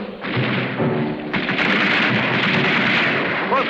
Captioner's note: guns firing